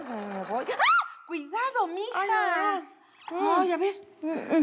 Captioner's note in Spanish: Gritos